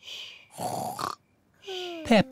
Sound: snores

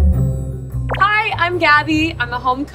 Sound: upbeat music; name tag bloops

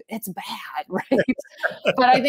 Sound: chuckle

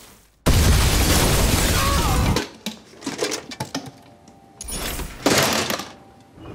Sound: explosive detonates; resident screams

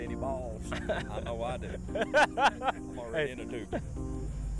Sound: men laughing

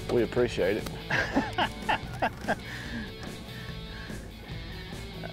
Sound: laughs

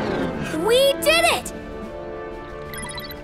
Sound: none

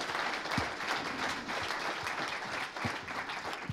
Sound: applause

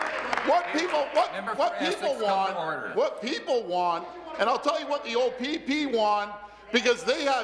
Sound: applause

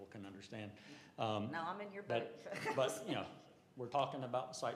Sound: laughter

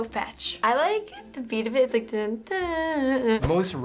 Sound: hums beat

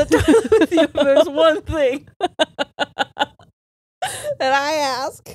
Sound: both laughing

